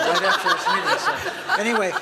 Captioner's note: laughter